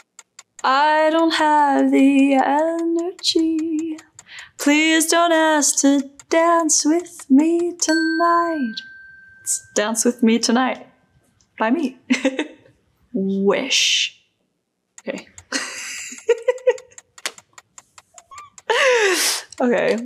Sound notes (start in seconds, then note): 12.1 chuckles lightly; 15.2 chuckling